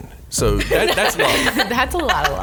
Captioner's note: laughs